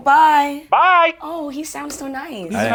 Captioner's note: voiceover